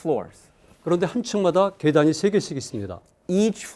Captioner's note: speaking in Korean